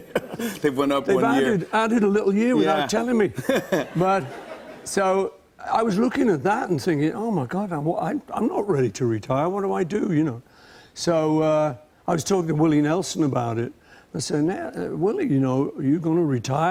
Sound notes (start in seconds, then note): 3.3 laughter